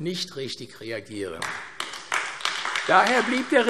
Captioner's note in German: Beifall AfD